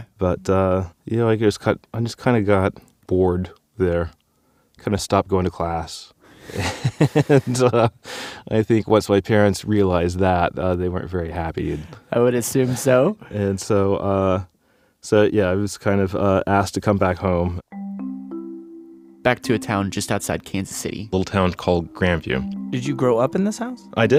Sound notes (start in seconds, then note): 6.2 laughs